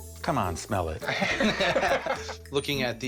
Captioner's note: laughter